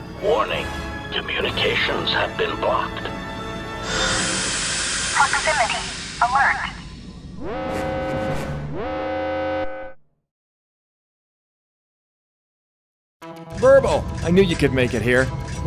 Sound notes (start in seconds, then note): 8.8 alarms